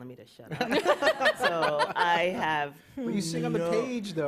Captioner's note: laughter